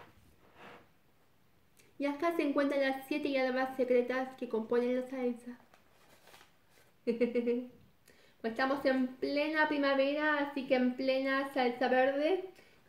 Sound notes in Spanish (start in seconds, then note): 7.0 risas